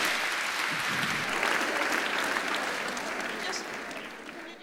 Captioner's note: audience applauds